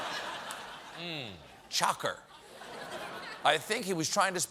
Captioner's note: laughter